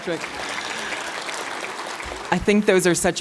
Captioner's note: applause